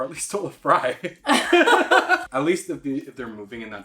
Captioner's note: laughing